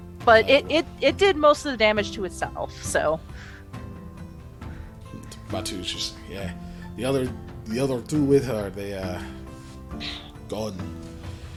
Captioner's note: woosh